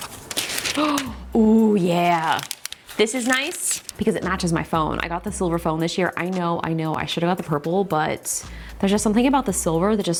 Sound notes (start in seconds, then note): 0.7 gasps